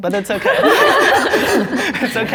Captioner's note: group laughing